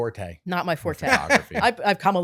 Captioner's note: laughs